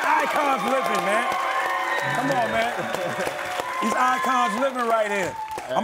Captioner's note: audience screaming